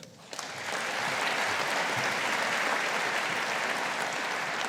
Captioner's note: audience applauding